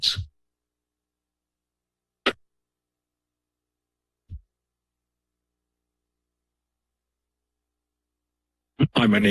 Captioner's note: silence